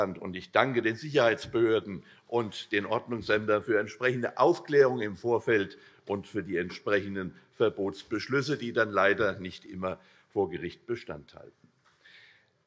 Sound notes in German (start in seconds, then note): none